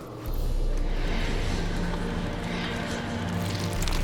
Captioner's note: ghostly whispering